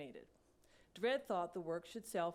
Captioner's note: none